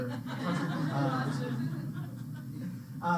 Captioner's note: laughter